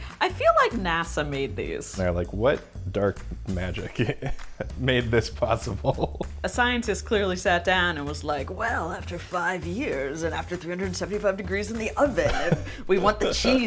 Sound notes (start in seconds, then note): 3.8 laughs